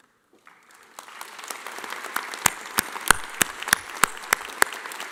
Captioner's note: audience applauding